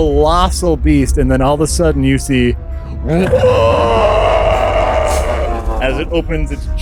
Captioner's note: worm shriek